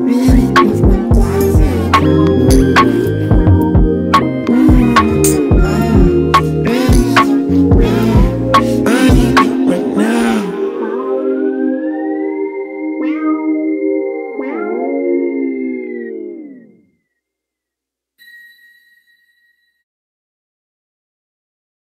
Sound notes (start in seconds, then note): 14.7 music fades; 18.2 text tone dings